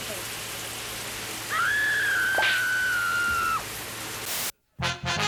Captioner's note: woman screaming